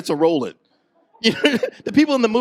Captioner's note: chuckles